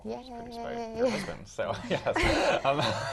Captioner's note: laugh